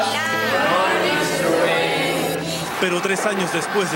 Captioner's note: class noises